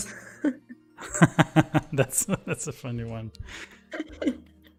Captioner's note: laughs